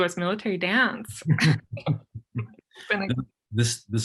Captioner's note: both laughing